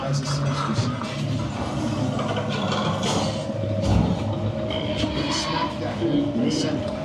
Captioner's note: gears grinding; chattering